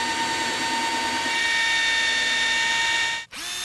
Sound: drilling

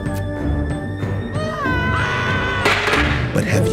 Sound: villager puppets screaming

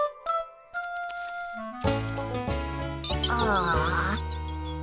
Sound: squirrels Chatter

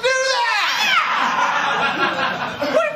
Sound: laughter

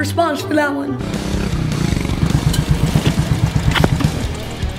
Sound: motorcycle engine revving; upbeat rock music

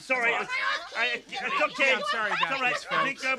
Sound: group chattering

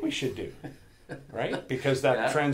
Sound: laughs

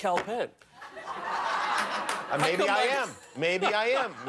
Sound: laughter

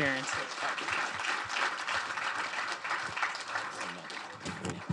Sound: crowd applauding

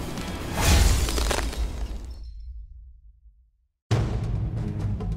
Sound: ice breaking; suspenseful music

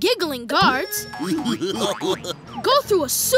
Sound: giggling

